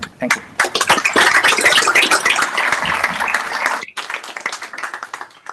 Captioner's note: applause